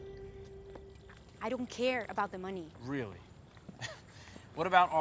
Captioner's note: laughs